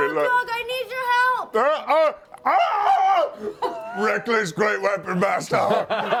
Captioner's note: yells; laughter